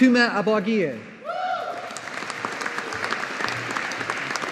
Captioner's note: audience applauding